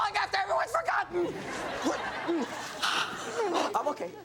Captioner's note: audience laughs